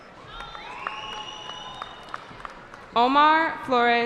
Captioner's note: cheering